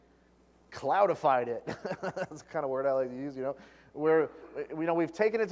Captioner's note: laugh